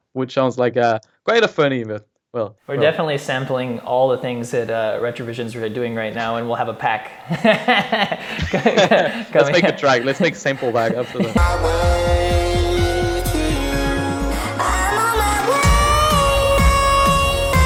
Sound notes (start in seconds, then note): 8.6 laughs; 15.0 upbeat music